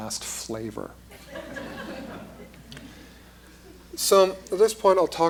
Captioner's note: laughter